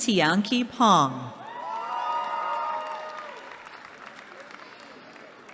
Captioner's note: cheering